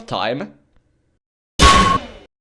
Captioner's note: bonk!